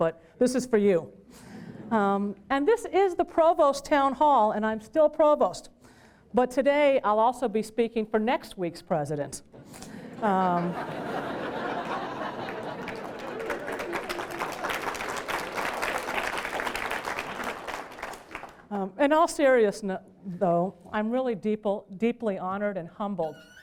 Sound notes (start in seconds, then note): 11.8 applause